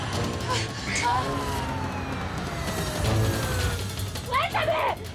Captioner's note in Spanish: sirenas